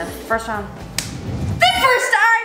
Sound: claps

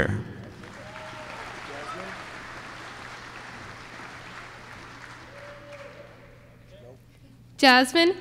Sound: applause

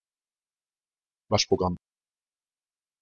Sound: fast Pronunciation

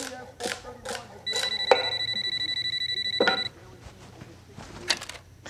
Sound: phone ringing

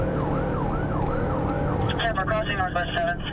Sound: police radio chatter

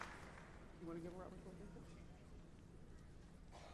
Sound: cheers and applause

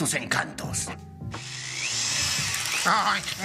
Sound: drill sound

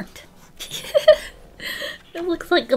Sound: laughs

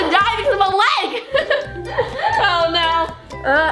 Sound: laughs

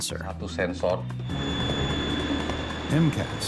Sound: jet engine

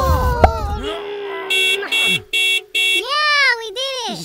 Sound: car horn honks

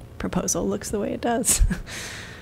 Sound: laughter

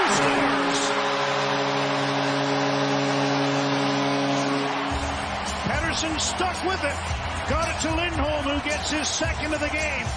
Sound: goal horn

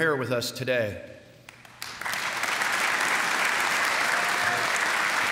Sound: applause

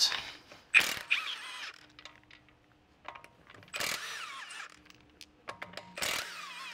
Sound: drill whirring

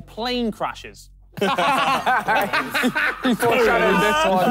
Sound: laughing

